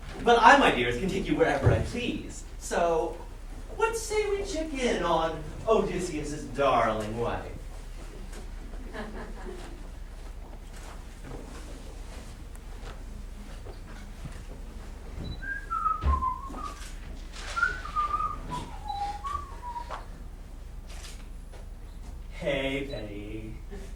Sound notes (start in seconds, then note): 17.4 whistling